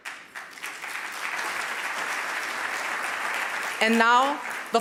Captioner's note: audience applauding